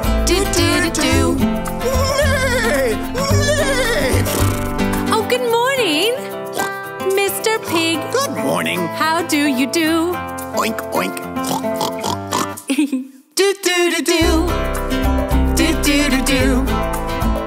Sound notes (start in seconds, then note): 10.5 pig sounds; 12.4 giggles